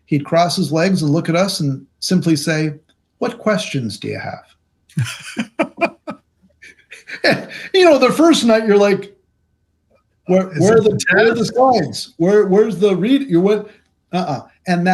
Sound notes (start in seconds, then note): 5.1 laughing